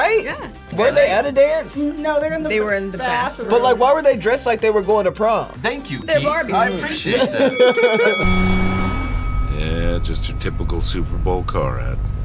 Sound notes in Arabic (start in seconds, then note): 7.3 قرع الجرس; 8.2 تسريع محرك السيارة